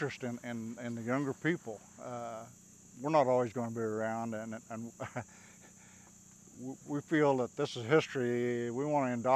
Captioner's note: laughs